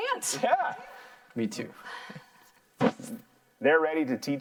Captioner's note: laughs